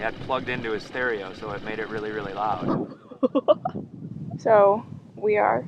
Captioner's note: laughs